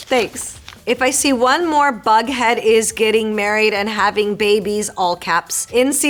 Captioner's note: Marisol reading fan letter aloud